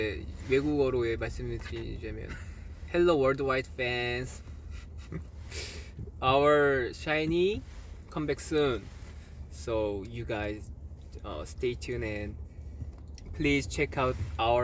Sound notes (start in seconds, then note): 2.6 speaking English